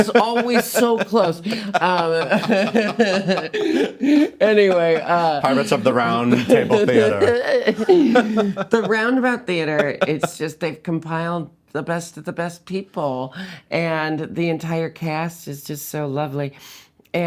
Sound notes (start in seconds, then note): 1.7 laughing; 2.5 Jinkx laughs; 7.3 both laughing